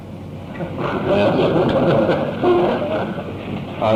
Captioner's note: laughter